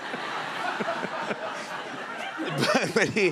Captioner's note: laughter